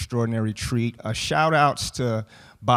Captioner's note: none